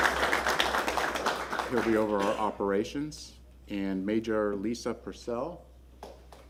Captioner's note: applause